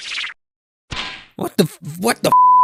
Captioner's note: bonk